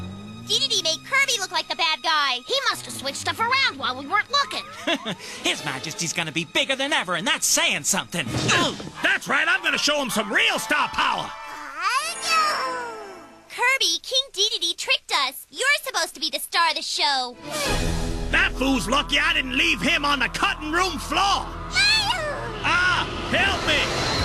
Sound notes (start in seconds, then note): 4.6 Escargoon chuckles; 8.2 grunts